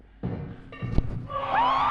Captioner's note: clatter; screech